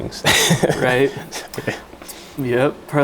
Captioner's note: laughing